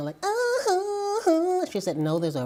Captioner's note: vocalizes like Michael Jackson